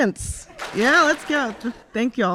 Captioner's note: audience claps